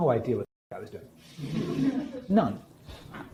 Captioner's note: laughing